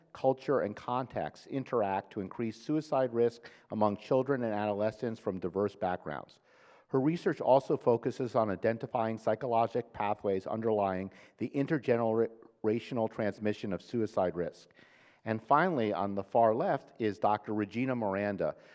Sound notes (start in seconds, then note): none